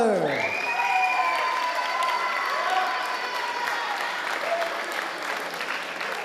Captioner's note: audience applauding and cheering